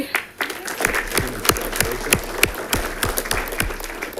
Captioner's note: audience clapping